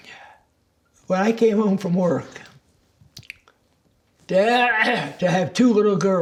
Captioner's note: clears throat